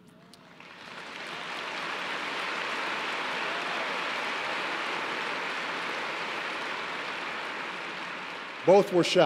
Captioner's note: applause